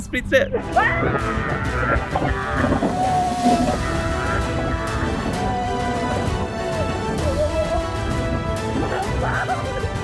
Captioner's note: scream